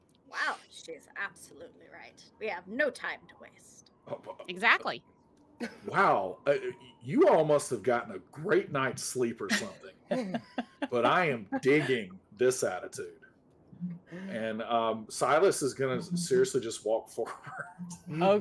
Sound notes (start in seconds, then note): 9.4 laughing